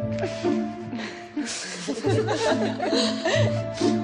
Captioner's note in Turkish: Gülme